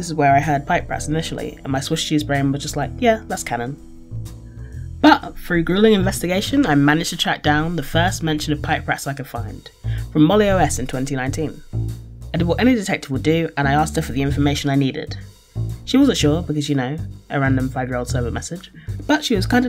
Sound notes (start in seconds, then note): none